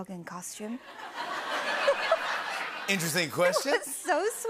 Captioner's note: laughter